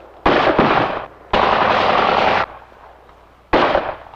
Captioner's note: rapid gunfire